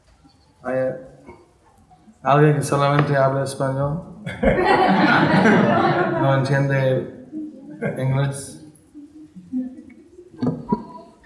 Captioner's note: in Spanish